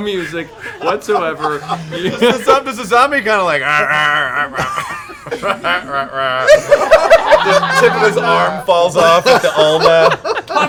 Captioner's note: zombie groaning